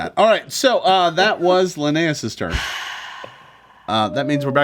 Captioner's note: Linneus sighs deeply